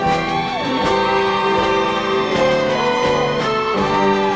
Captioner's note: audience cheering